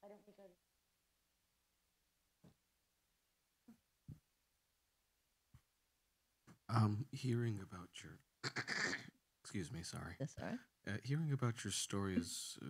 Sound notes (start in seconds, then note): 8.4 clears throat